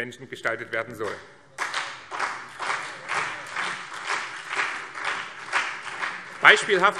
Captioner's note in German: Beifall BÜNDNIS 90/DIE GRÜNEN und CDU